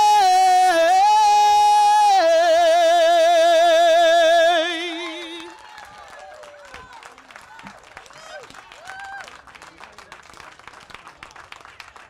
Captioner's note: applause